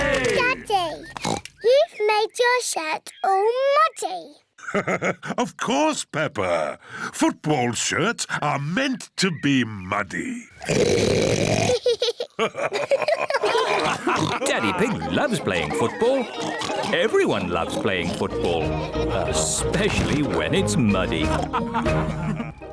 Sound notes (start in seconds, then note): 1.0 oinks; 4.6 laughs; 10.6 oinks loudly; 11.6 both laugh; 20.9 all laughing